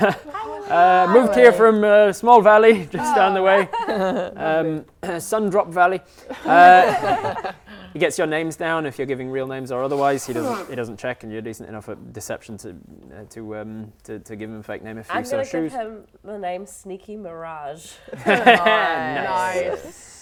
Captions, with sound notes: Hi Willy! Moved here from a small valley, just down the way Sundrop Valley *laughing* He gets your names down if you're giving real names or otherwise, he doesn't check and you're decent enough at deception to give him a fake name if you so choose I'm gonna give him the name Sneaki Mirage Niceee